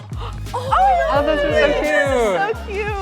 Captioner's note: students squealing in delight